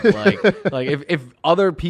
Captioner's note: laughs